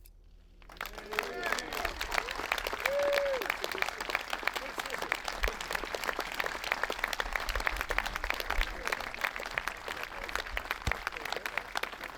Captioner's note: applause